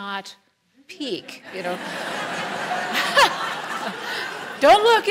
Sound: laughter

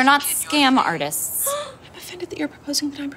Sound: affronted gasp

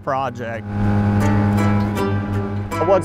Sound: boat engine whirring; dramatic country music

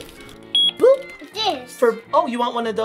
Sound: scanner beeping

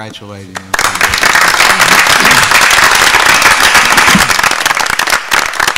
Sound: applause

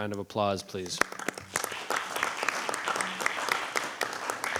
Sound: audience applauds

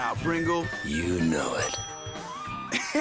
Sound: ding

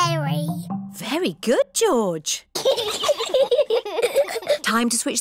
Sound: both giggle

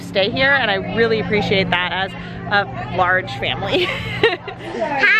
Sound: laughs

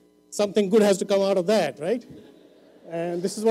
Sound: laughter

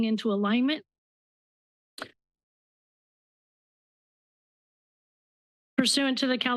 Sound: pause

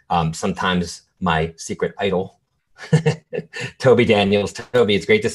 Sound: chuckles

